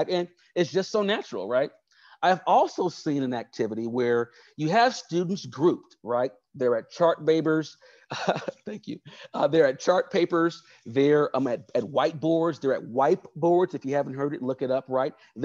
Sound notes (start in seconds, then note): 8.1 laughs